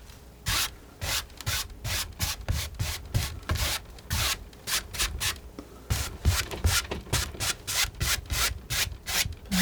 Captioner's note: scratching